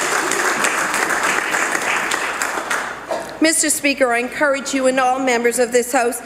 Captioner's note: some Applause